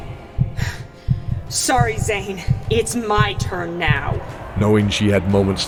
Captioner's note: panting